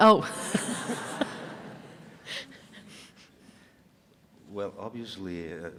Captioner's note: audience laughing